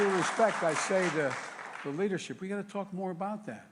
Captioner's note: applause